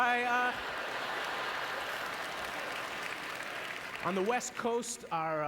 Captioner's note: audience laughter